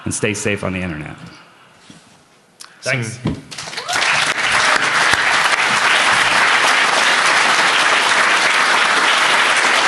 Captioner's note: applause